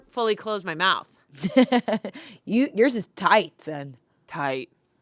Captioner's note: laughs